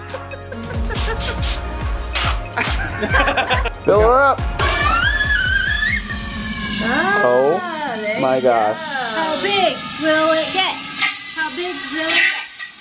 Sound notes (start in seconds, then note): 0.0 laughing; 0.7 air blowing; 2.4 laughing; 4.6 squeaks; 12.5 squeaking